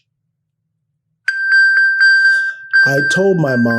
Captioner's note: electronic bell